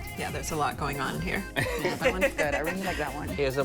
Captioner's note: laughter